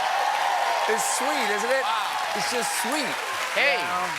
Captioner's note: applause